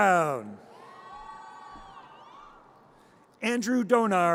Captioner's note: audience cheers